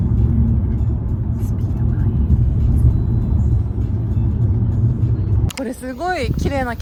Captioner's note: whispering